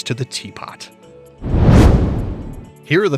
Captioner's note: meteor whooshes